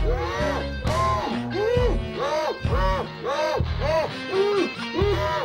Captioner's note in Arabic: صراخ مكتوم